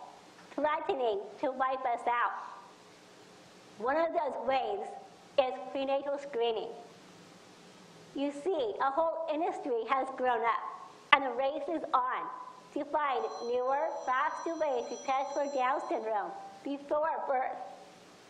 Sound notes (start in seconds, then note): none